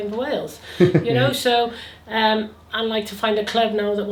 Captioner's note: laughs